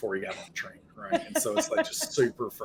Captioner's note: laughing